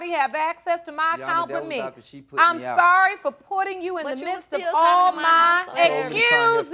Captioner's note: arguing